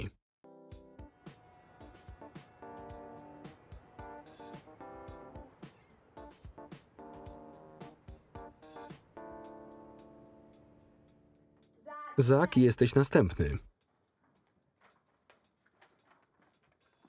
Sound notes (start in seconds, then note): 1.0 boat horns honking; 1.9 upbeat music